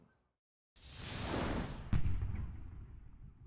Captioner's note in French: explosion